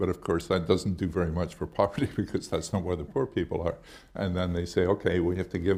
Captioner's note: chuckles